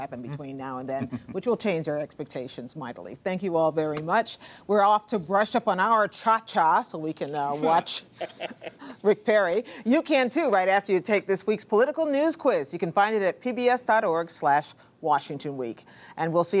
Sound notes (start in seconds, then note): 7.6 laughs